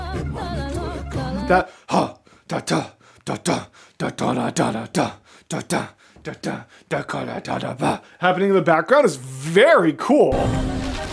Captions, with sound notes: That [demonic chanting noises] Happening in the background is very cool.